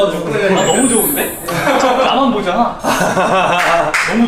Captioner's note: laughs